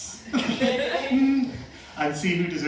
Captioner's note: laughter